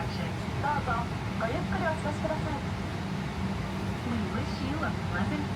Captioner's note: air hostess speaking in a foreign language